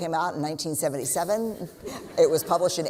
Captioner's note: laughter